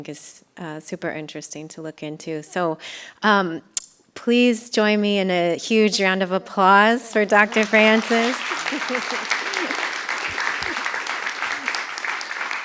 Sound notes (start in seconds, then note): 7.0 applause